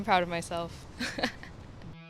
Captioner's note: laugh